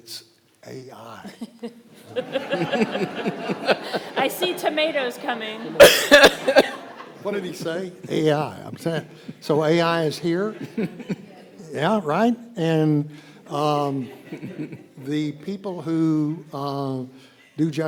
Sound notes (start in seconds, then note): 2.3 all laughing